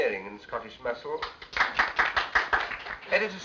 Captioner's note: applause